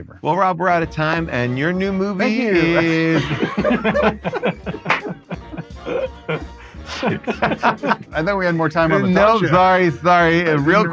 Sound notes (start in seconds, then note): 2.2 group laughing